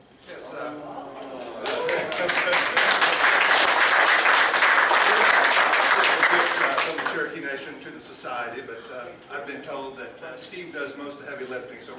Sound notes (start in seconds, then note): 1.4 applause